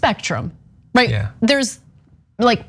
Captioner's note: laugh